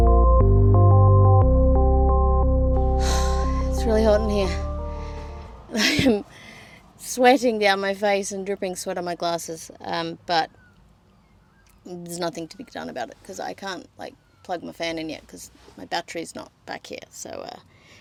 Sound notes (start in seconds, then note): 0.0 the music is faded out; 2.9 sighs